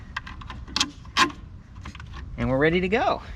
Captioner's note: metal squeaking